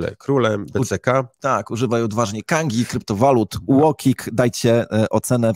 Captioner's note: in Polish